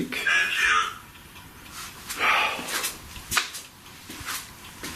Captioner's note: Voice from Ovilus